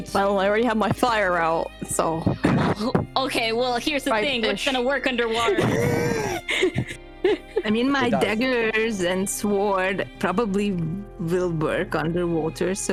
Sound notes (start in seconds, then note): 7.0 laughing